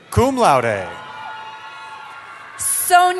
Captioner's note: cheering